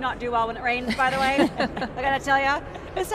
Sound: laughing

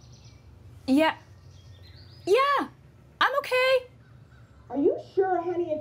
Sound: high voice

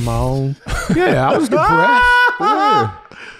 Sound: cackling

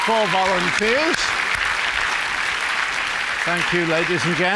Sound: applause

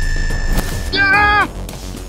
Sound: aah!

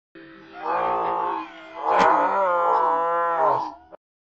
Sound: slowed down laughing

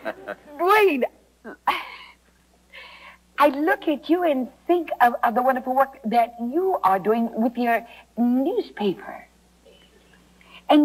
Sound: gasp

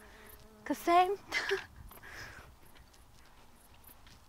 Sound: laughs

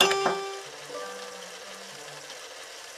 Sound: piano sound; sink sound

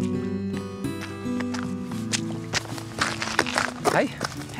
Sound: footsteps

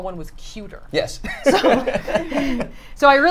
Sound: all laugh

